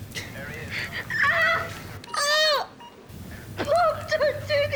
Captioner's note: shirley cries out